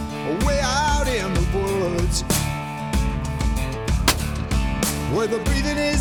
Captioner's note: gunshot